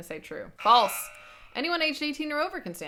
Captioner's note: buzzer sounds